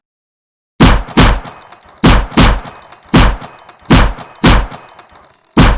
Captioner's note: gunfire